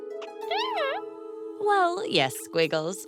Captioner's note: caterpillar noises